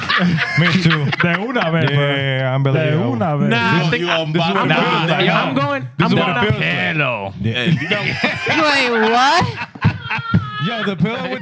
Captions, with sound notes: (Laughing) (Speaking In Foreign Language) I'm going, I'm gonna-- The pillow. The pillow. (Laughing) Wait, what? (Laughing) Yo, the pillow.